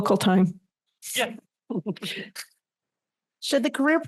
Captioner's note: laughter